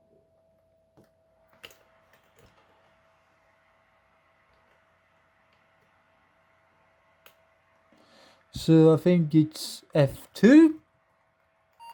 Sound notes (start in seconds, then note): 0.0 laptop fan noise; 11.8 laptop beeps